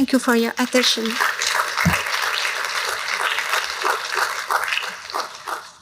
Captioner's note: applause